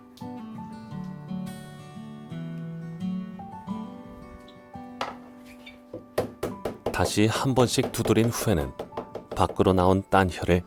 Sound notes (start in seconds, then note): 5.9 hammering sound